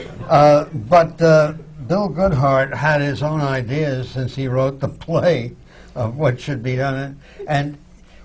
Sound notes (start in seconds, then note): 0.0 laughter; 4.1 laughs